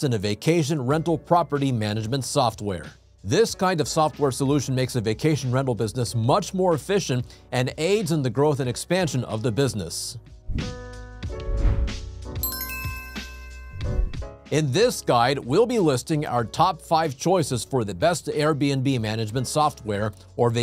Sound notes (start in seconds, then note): 10.8 bells chiming; 10.8 mellow music